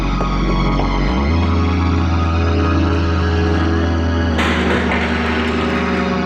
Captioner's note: ominous sci-fi music; ladder crashes